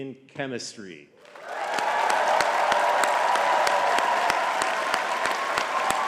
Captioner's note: audience cheering and clapping